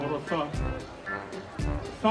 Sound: encouraging crowd in Finnish

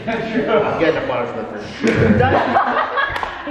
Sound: people talking

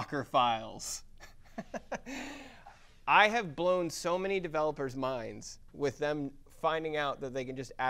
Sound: laugh

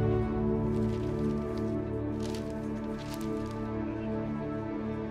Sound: papers rustling

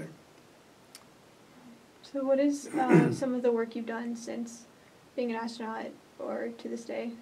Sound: clears throat

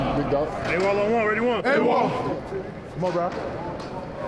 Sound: men cheering

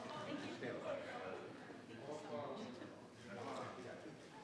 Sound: people chattering

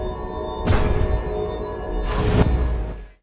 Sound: dark ominous music; safe door slamming

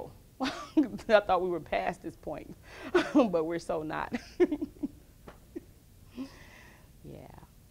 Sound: laughs

